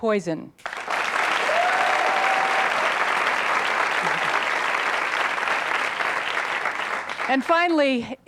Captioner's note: applause